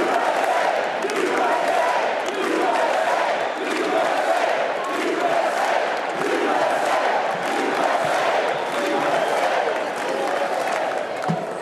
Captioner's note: cheers and applause